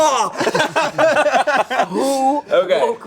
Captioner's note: group laughing